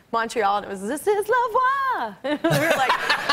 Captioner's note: laughs